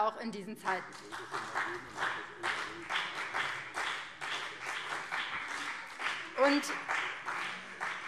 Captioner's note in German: Beifall